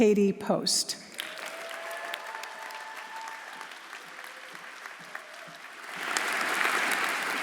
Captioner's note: audience applauding; audience cheering